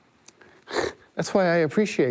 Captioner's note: laughs